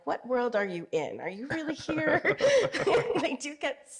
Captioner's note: laughing